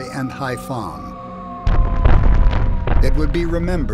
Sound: bombs whistling; explosions echoing

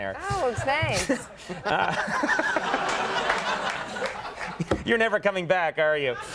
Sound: audience laughing; Conan laughs

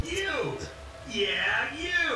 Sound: robotic Voice

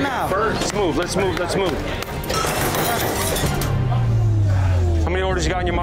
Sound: glass crunching

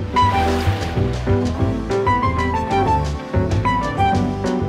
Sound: water sploshing

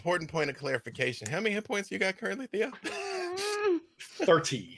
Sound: laughs

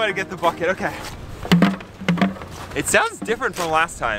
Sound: bucket rattling

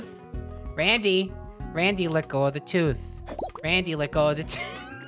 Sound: laughing

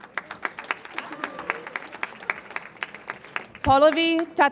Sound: audience applauds

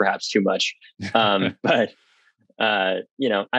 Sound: laughs

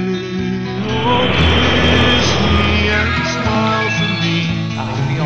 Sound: jet engine, P.A. annct

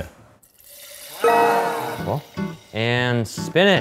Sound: bell dinging

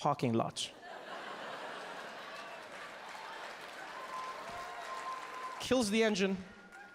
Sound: audience laughing; audience cheering

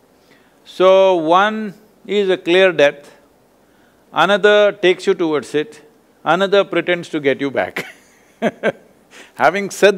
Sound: laughs

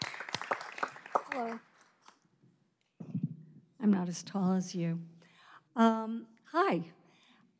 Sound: applause

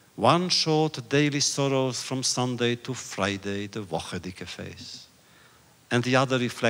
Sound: Yiddish

